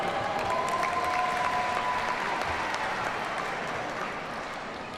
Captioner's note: audience cheers and applauds